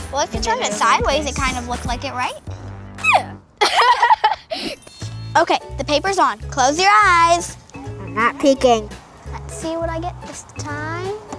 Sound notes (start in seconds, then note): 3.6 laughing